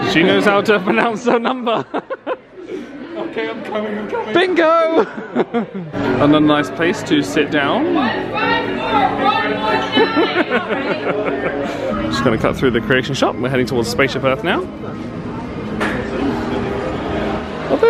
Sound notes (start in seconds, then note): 0.8 laughs; 4.9 laughs; 9.9 laughing